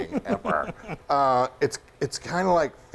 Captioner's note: giggling